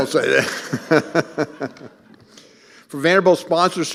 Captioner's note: laughing